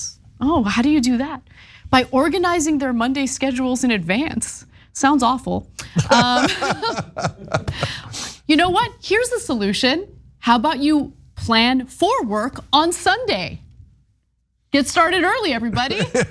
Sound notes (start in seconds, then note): 5.8 laugh; 15.7 laugh